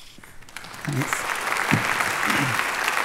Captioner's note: applause